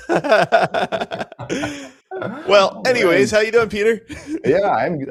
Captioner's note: laughs